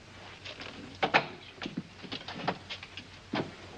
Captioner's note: door opens